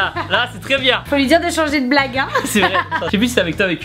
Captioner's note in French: Rires